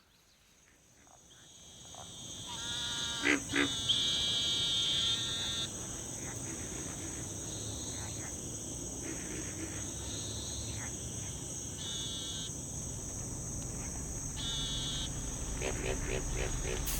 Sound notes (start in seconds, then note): 2.4 frog croaking